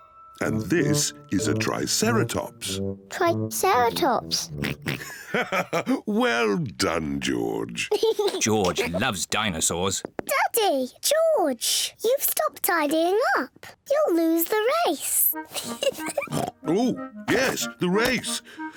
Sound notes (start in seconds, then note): 4.3 chuckles; 4.4 oinks; 15.4 giggles